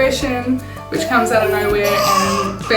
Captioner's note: baby cooing